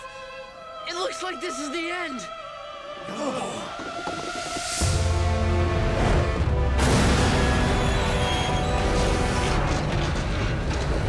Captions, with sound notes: It looks like this is the end. [thudding, screeching]